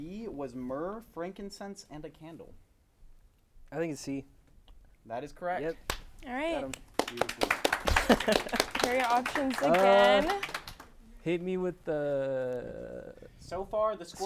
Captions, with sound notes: - B was myrrh, frankincense, and a candle. - I think it's C. - That is correct. - Yep, get 'em. (applause) - Here are your options again. - Hit me with the strawberries.